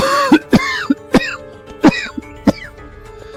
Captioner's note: cough cough